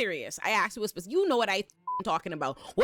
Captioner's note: beep